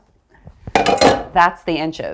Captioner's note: skillet clangs